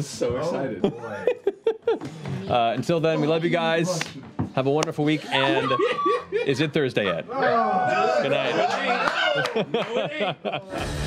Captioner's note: giggles